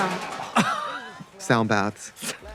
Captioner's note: Katya laughing